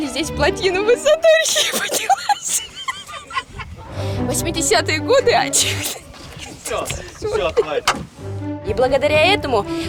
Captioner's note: laughs